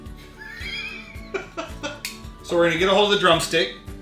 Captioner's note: laughing